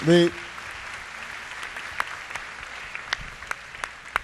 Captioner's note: applause